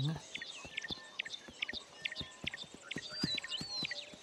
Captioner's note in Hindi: चहचहाहट